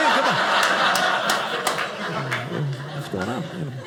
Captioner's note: audience laughing